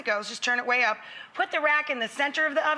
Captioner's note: none